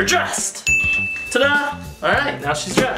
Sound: ding

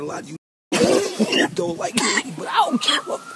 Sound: coughing

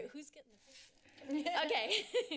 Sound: rustling sound

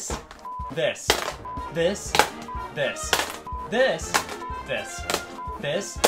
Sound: beep; beep

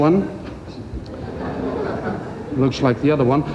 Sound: crowd laughs

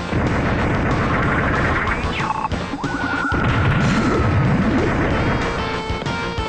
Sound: game audio

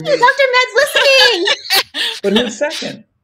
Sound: laughing

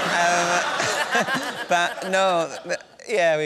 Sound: laughter

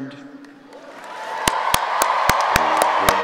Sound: cheering and applauding

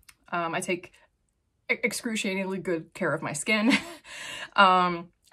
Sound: chuckles

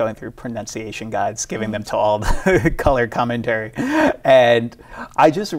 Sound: laughs

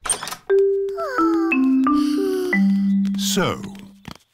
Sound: peppa and george sigh

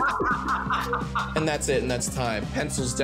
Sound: laughing

